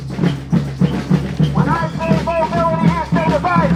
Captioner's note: energetic rhythms on drums only; through megaphone